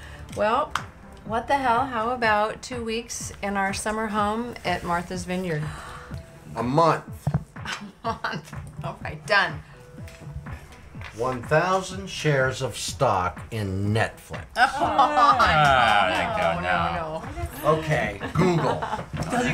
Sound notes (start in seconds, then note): 8.6 laughs; 14.5 woman laughs